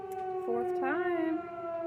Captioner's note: tornado siren